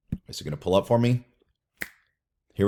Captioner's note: snaps